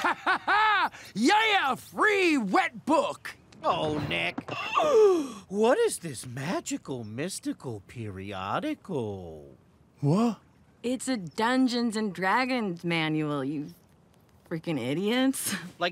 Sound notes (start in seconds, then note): 0.0 laughs; 4.9 gasps